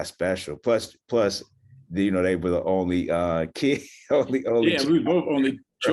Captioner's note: chuckles